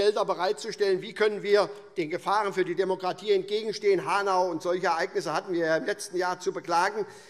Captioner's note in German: none